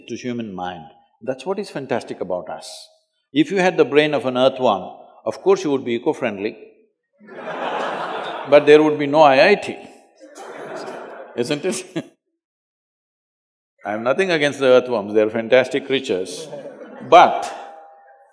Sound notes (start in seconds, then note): 7.2 laughter; 10.2 laughs; 10.2 laughter; 16.3 few Laugh